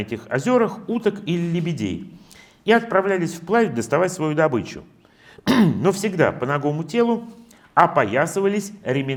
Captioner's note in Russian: откашливается